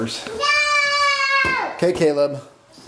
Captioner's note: screams